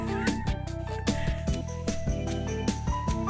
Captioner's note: laughing